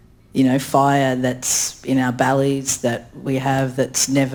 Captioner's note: speaks in foreign language